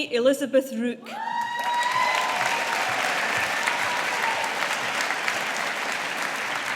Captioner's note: audience applauding